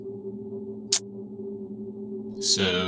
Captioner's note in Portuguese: Língua cliques